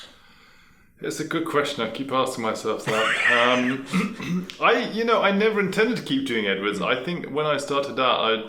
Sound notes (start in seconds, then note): 2.8 laughing